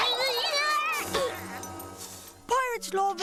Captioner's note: grunts